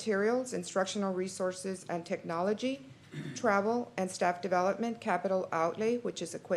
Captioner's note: clears throat